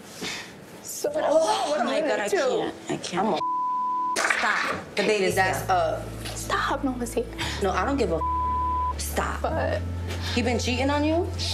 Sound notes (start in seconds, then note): 3.4 beep; 8.2 beep